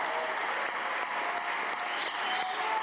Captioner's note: cheers; applause